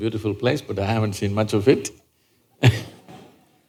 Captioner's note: laughs